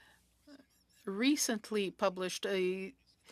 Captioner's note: speaking French